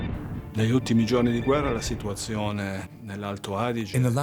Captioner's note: speaks in foreign language